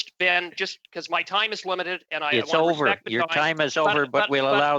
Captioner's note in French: voix de l'interprète